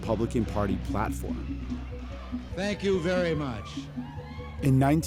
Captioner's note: soundbite of archived recording